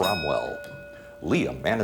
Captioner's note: ding